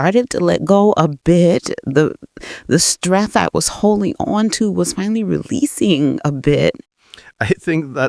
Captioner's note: uncomfortable laugh